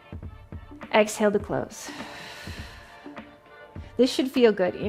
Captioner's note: exhales